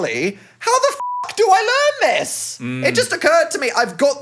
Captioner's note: beep